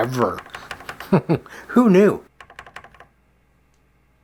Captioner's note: chuckles